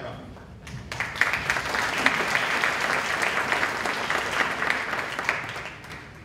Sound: applause

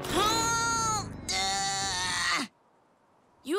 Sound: groans

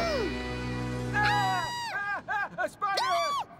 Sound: both scream; laughs

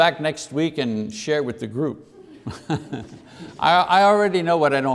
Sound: laughter

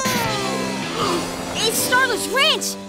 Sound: gasping

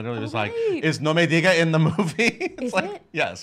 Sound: foreign language

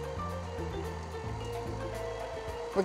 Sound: mixer whirring

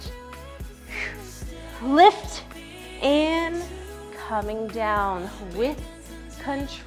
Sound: exhales

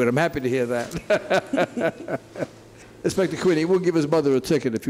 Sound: laughing

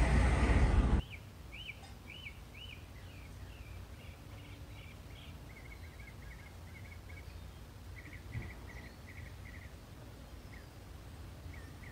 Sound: car whoosh; birds chirping, wind static

